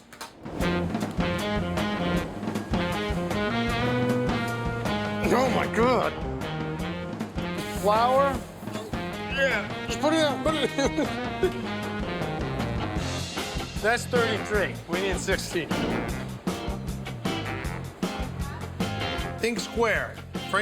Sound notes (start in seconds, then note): 0.2 upbeat music; 8.6 laughs; 8.7 grunts